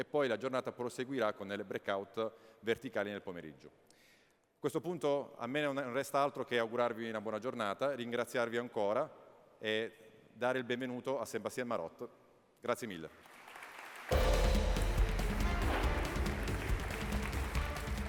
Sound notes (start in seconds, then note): 13.1 applause